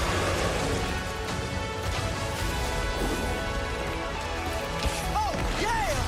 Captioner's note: roaring